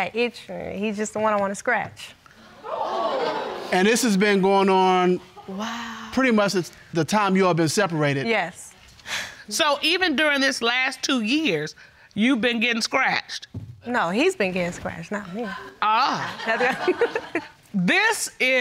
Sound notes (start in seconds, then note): 2.4 audience gasping; 9.5 sighs; 16.1 audience laughs